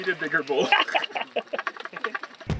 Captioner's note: chuckles